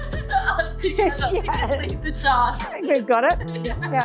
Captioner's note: laughing